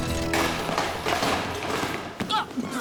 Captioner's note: crashing